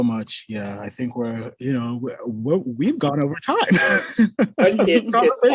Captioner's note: laughs